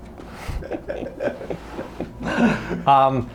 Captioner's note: laughing